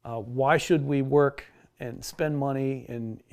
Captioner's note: none